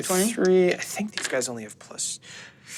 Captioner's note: dice rolling